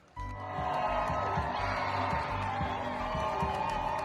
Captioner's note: protestors cheering